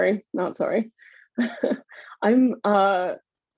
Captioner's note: laughs